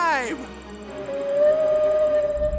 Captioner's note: whale vocalizing